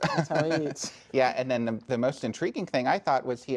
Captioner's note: laughs